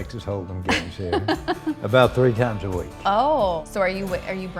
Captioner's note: laughs